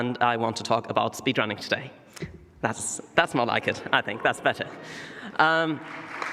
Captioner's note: applause